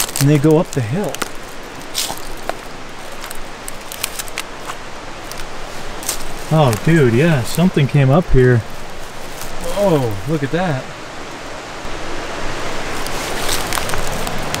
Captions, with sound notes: and they go up the hill. (water flowing) (sticks crunching) Oh dude, yeah, something came up here. Whoa, look at that. (water rushing)